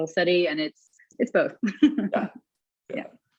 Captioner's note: laughs